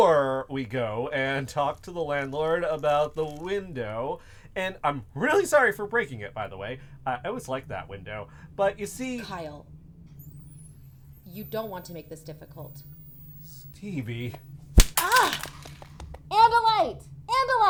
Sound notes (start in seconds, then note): 10.0 weapon powering up; 14.8 thwap